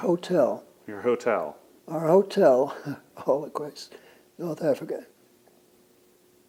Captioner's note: laughs